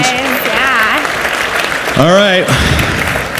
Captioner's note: audience applauds